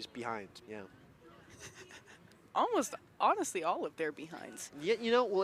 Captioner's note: chuckles